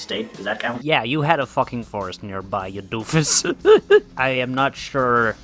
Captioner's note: laughs